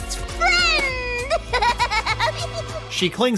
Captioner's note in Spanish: risas